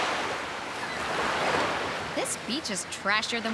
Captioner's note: waves splashing